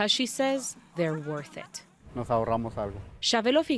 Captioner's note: speaking in foreign language